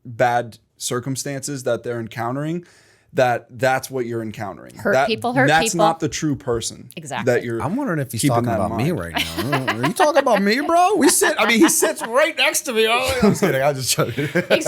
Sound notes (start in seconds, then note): 11.0 laughter; 14.0 chuckle